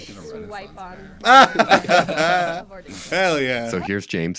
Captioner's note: laughs